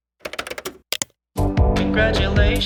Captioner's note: buttons clicking